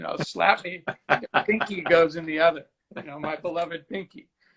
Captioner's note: laughing